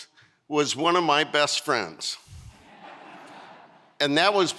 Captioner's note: audience laughing